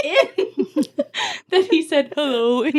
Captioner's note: laughing